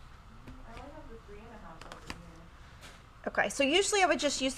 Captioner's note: faintly speaking